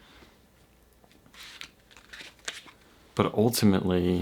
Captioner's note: cards cutting